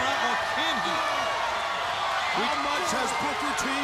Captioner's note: crowd chatter